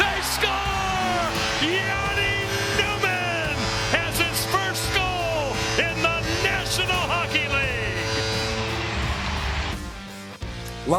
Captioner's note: goal horn